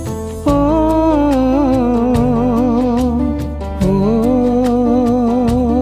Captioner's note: humming